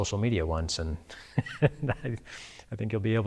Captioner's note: chuckles